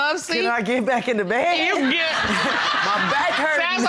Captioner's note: chuckles